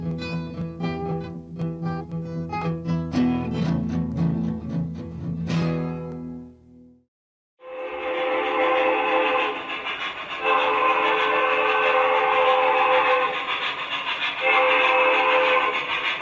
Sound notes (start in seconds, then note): 0.1 lively bluegrass music; 7.6 train whistles